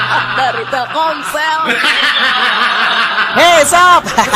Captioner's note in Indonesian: tertawa